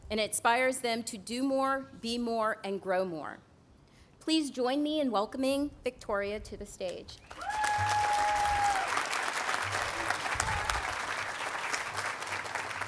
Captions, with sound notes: And it inspires them to do more, be more, and grow more. Please join me in welcoming Victoria to the stage. (audience cheering and applauding)